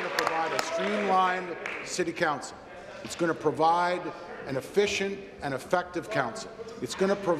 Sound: applause

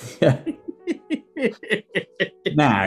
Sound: giggling

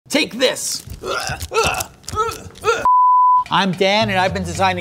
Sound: moaning

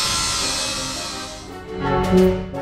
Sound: radial saw cutting

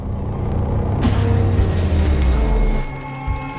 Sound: metal crunching; high-pitched ringing

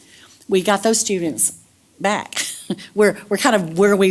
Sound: laugh

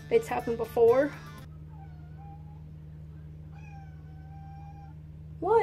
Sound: sad cat noises

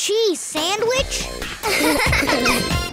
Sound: laughing

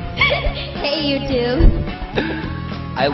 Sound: laughing

